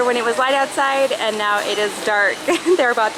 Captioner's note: laughing